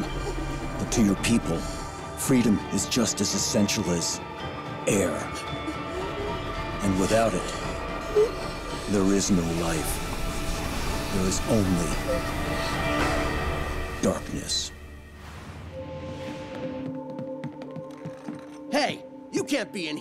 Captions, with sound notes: To your people... freedom is just as essential as... air. [gasping] And without it... there is no life. There is only... darkness. Hey, you can't be in here.